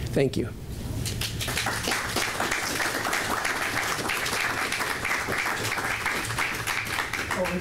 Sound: applause

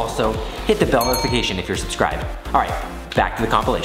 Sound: bell ringing

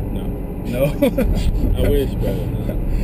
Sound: laugh

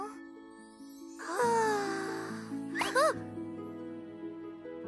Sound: Hogi gasps; Pinkfong sighs

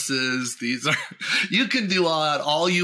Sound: chuckles

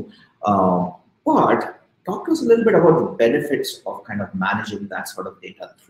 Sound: speaking softly

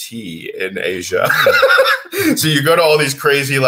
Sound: laughs

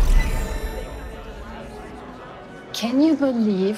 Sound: indistinct chatter

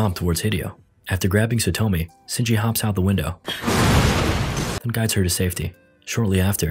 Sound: explosion

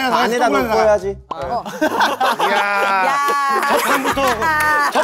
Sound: murmuring

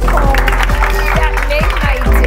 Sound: students clap

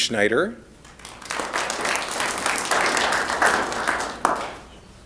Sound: applause

